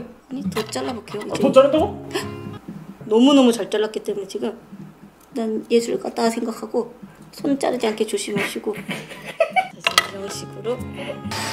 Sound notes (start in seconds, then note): 2.2 gasps; 11.3 hoovers